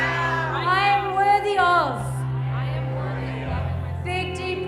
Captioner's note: murmuring